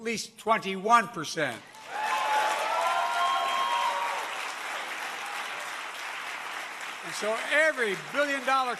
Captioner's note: applause